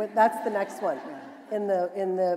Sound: laughter

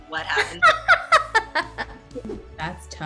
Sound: laughing

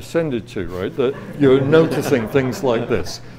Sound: audience laughs

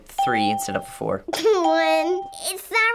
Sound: laughs

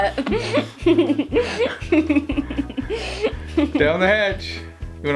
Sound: giggling

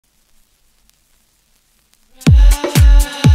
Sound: scratched vinyl sound

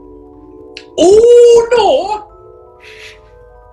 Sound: accented

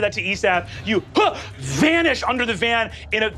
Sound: grunts

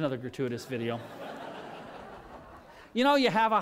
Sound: laughter

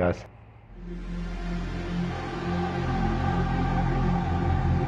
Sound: musical whoosh

